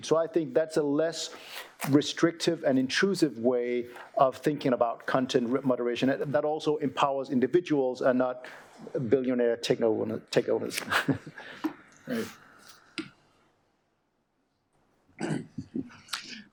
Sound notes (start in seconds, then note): 10.8 chuckling